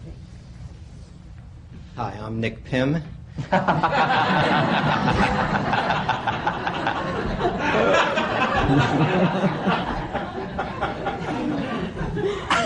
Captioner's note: laughter